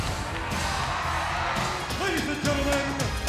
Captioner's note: audience cheering